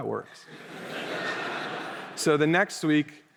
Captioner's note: laughter